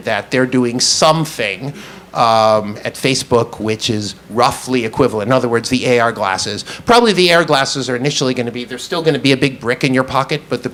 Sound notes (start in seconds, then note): none